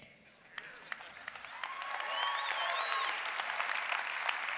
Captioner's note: audience cheers and applause